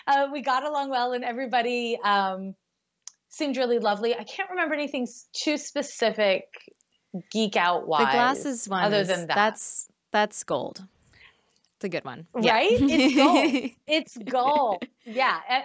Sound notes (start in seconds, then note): 14.1 laughing